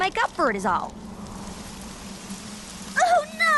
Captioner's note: wind whistling